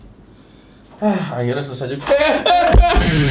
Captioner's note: sighs; gasps